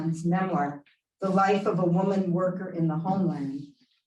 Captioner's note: Hebrew